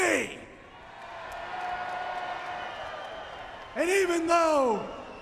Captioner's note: crowd cheering